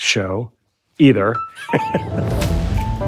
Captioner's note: chuckling